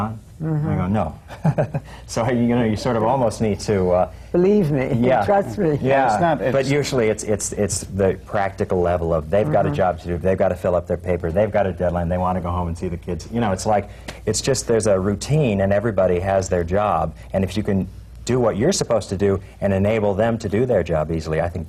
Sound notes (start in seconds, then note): 1.2 laughs